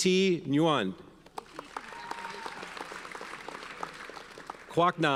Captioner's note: audience cheers and applauds